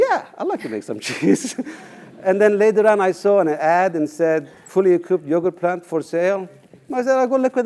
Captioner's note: laugh